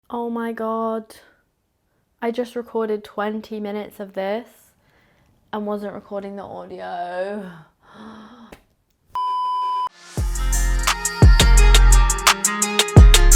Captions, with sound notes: - Oh my God, I just recorded 20 minutes of this and wasn't recording the audio. (beeping) (upbeat music)